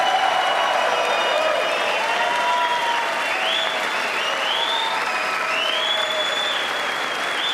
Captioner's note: applause